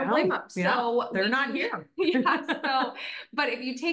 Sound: chuckles

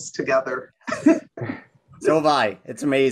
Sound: group laughs

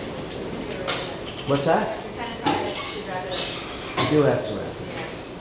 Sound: speaking off mic

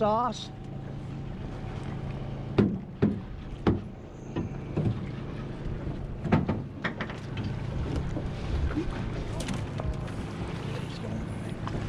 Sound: reel cranking

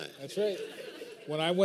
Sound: laughter

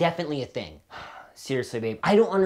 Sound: sighs

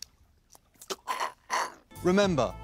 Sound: Laurence Rickard making choking noises

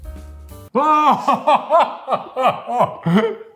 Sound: laughing

